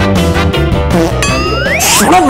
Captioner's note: Uzi farting